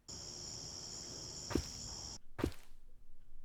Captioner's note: footsteps